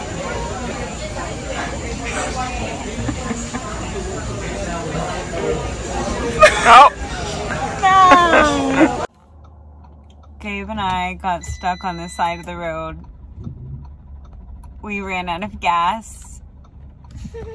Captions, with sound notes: (laughs) No. - Gabe and I got stuck on the side of the road. We ran out of gas.